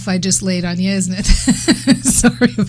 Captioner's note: laughing